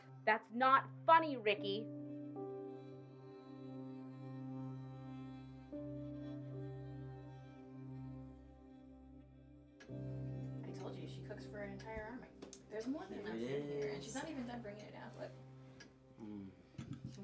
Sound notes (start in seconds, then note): 3.2 dramatic music; 12.1 family chatter